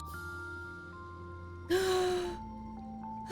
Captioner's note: gasp